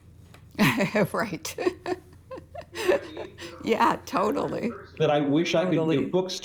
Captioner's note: chuckles